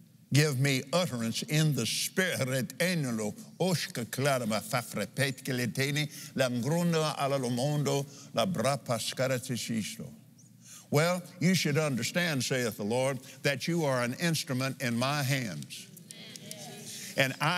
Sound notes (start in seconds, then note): 2.7 speaking in tongues